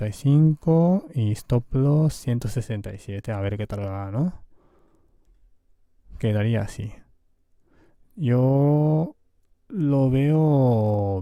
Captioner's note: Spanish